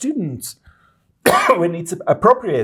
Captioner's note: cough